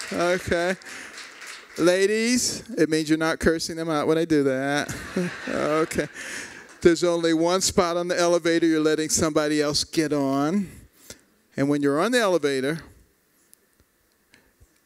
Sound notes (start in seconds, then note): 0.0 applause; 4.8 laughter